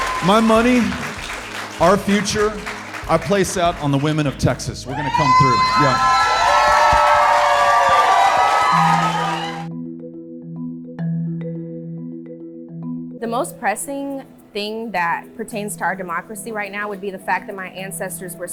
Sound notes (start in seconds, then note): 6.1 audience loudly cheering; 9.4 urgent music